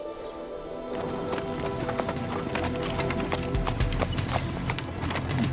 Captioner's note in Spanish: cascos de caballos haciendo clic